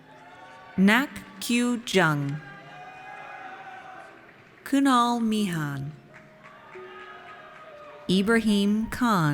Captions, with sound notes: Nack Kyoo Jung. (audience cheers) Kunal Mehan Ibrahim Khan.